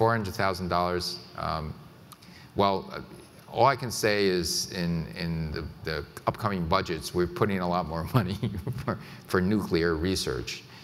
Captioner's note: chuckles